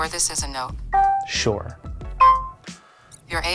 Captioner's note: pin beeping